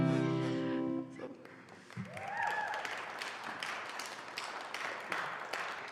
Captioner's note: applause